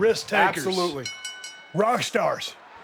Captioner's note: bell rings